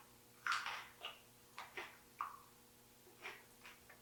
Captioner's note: teeth crunching